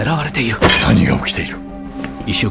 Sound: Jack hits table

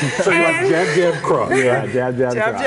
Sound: laughing

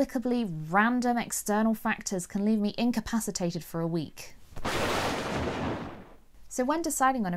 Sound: thunderstorms

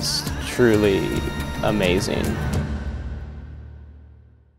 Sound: quavering voice fades

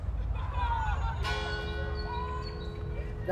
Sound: school bell rings

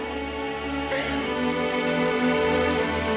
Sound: sobbing

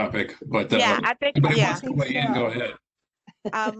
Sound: laughter

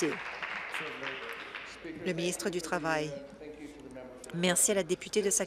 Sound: applause

